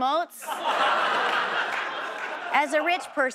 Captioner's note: audience laughs